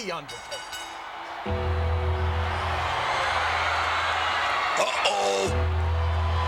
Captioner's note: applause